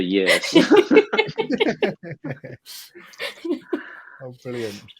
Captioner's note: all laugh